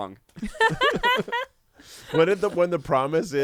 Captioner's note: everyone laughs